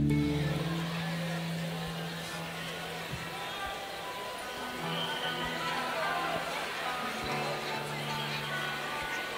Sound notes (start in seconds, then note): 1.7 audience chattering